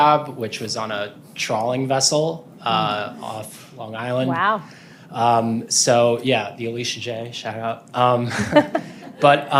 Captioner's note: laughter